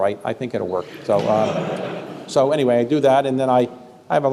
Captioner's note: laughter